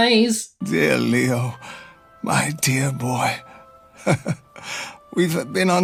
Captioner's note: weary chuckle